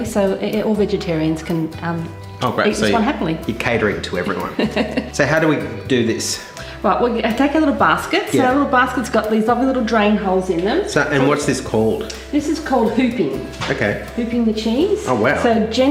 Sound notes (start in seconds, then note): 4.4 laughing